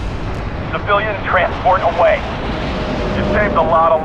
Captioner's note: radio